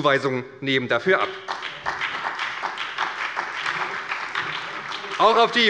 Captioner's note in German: Beifall bei der SPD